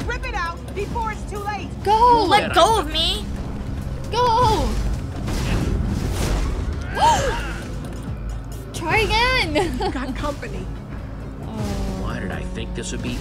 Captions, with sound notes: - Go. - Let go of me! - Go! (thud) (And gasp) - Try again. - Oh.